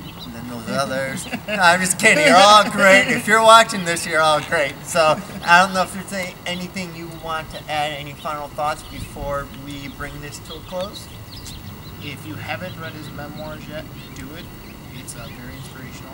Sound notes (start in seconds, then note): 1.6 laughs; 3.3 laughs